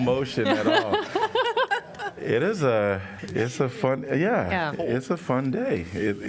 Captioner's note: laughter